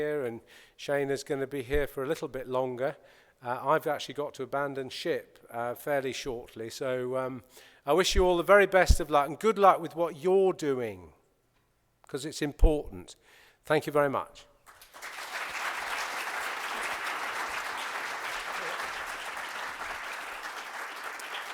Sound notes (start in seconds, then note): 14.6 applause